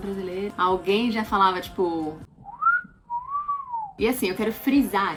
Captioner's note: whistle